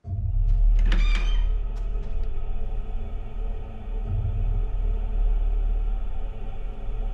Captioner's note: suspenseful music; door squeaking